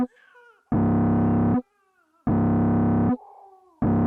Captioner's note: baby crying